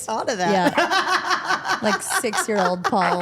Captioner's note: Steph laughing